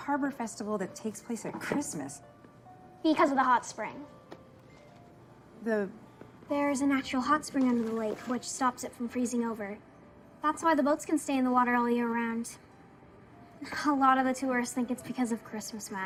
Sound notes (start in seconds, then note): none